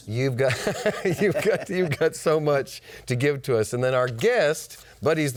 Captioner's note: laughs